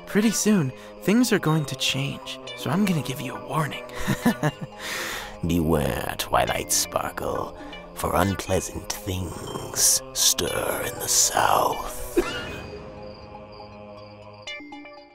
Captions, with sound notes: Pretty soon, things are going to change, so I'm gonna give you a warning. [TRIXIE LAUGHS] [DRAMATIC VOICE] Beware, Twilight Sparkle... for unpleasant things stir in the south. [COUGH]